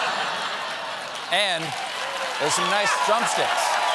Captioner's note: laughter; cheers and applause